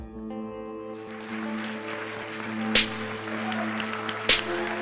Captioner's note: audience applauding